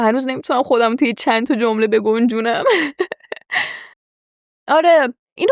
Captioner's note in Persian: خنده